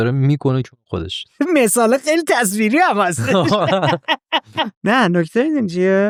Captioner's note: laughs